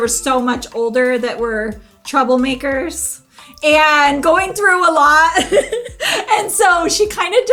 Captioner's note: laughs